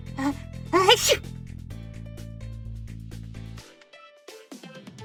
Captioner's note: camera cuts to Angel sneezing